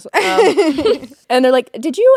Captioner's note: both laughing